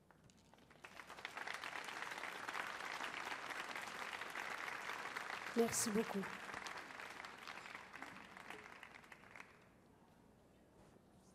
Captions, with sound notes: (audience applauds) Merci beaucoup.